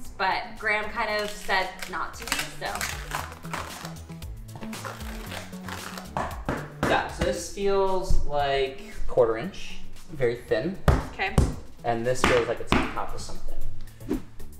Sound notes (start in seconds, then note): 3.1 upbeat music; 4.5 board ripping; 6.1 wood thuds